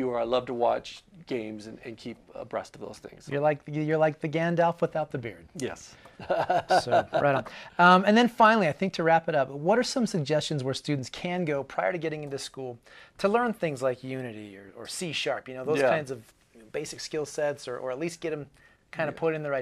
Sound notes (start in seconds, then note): 6.2 laughing